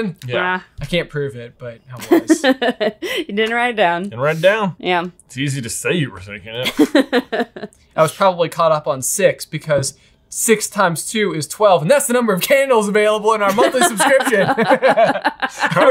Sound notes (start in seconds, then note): 2.0 laughs; 6.7 laughing; 13.4 group laughing